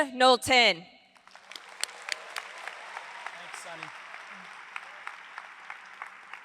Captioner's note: audience applauds